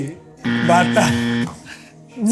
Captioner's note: buzzer